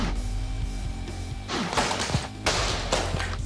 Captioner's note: whacking; whacking and clattering; rock music playing